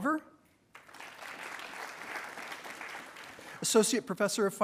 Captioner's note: attendees applauding